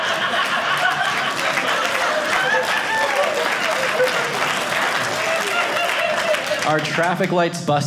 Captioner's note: audience laughing; audience applauding